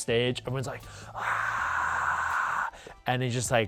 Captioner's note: yells